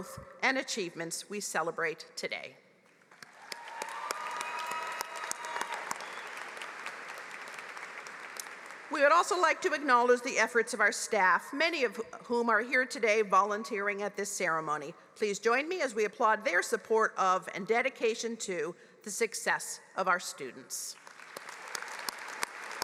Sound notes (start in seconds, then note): 8.3 applause